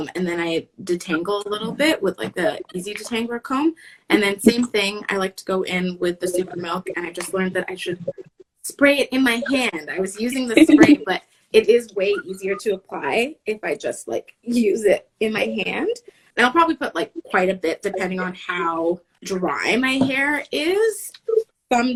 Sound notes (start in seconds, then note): 10.1 laughing